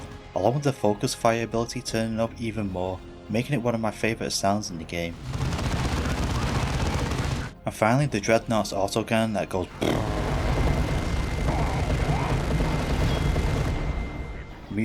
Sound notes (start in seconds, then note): 5.1 heavy rapid gunfire; 9.8 heavy BURRR gunfire